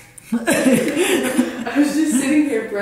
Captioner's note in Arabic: يضحك